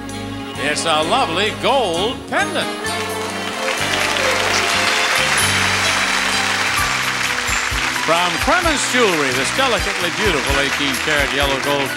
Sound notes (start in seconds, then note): 2.9 audience applauding